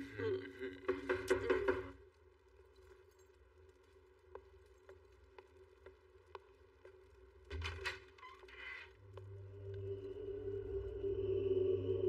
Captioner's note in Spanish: Golpean